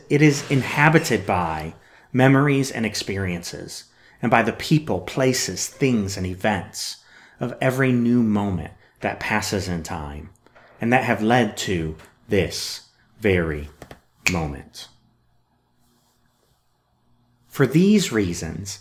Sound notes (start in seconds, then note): 15.2 finger snap!